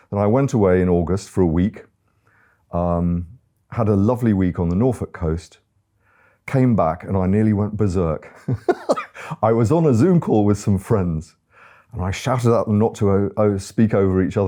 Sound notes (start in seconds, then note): 8.3 laughing